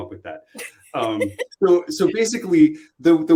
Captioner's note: laughter